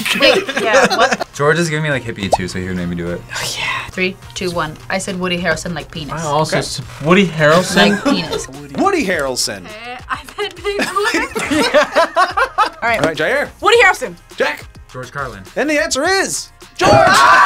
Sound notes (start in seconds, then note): 3.3 whispers; 8.3 React laughs; 10.7 group laughs; 16.9 screams